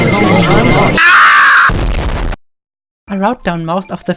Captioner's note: screaming